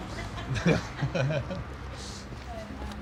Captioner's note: laughter